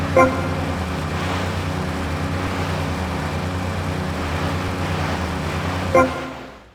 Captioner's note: car engine; car beep